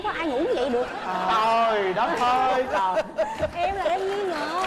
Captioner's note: laughing